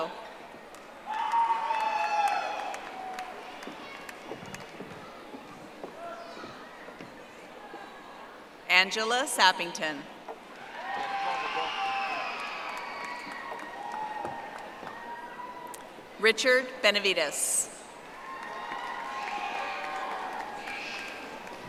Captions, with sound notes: Yzev Salgado. (audience applauding) Angela Sappington. (audience applauding) Richard Benivides.